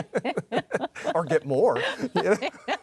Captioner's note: laughs